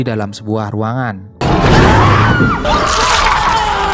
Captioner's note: shout